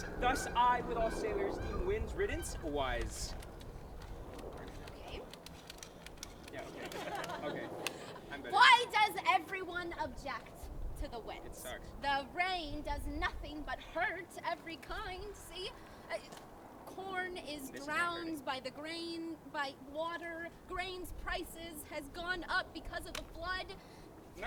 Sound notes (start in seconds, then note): 3.0 water and bubble gun squirts